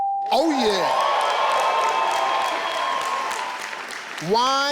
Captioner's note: audience yelling